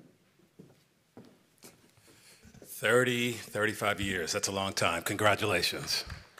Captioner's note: applause